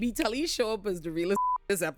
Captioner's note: beep